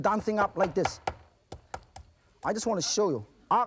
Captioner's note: knocking